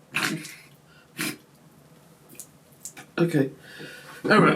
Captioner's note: coughs